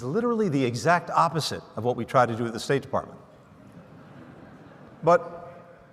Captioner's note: laughter